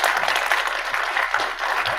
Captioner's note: audience clapping